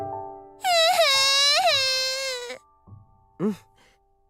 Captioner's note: waterworks